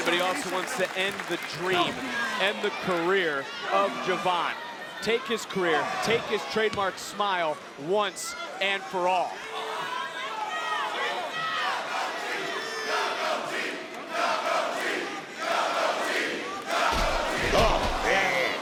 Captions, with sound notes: but he also wants to end the dream, end the career of Je'Von. Take his career, take his trademark smile once and for all. (people screaming) (crowd chanting)